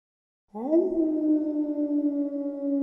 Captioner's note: dog howls